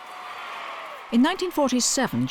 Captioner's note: crowd cheering